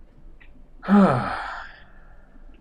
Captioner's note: sighs